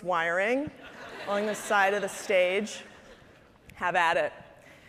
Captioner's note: audience laughing